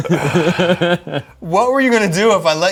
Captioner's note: groans